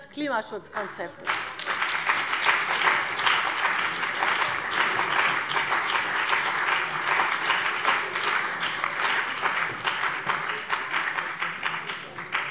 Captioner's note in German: Beifall bei der CDU und dem BÜNDNIS 90/DIE GRÜNEN